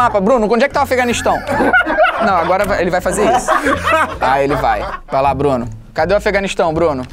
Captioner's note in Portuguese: risadas